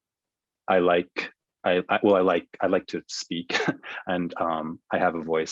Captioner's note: laughs